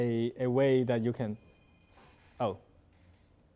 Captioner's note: phone rings